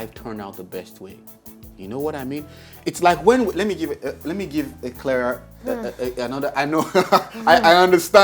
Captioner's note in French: des rires